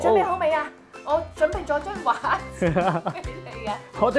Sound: laughing

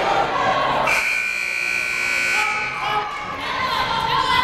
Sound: timer buzzes

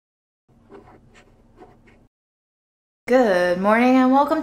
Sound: image shuffling

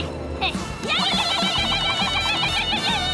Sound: shrieking

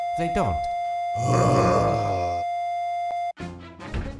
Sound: heavy groaning

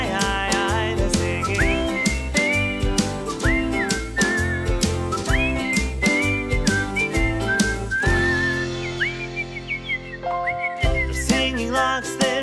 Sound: whistling

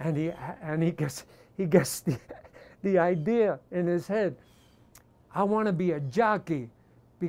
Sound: chuckles

